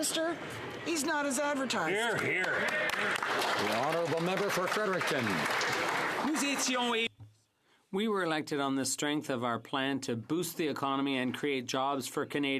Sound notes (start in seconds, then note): 7.8 some Applause